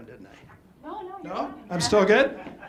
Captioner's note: audience laughs